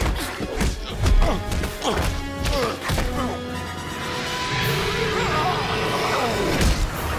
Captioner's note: fighters grunting; dramatic orchestral music